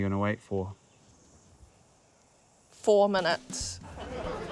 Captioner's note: laughter